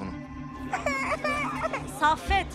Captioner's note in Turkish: Çocuk ağlama sesi